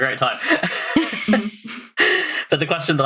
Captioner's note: laughing